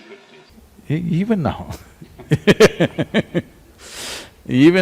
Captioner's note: both laugh